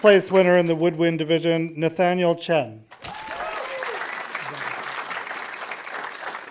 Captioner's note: audience applauding